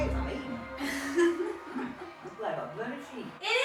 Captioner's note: laughs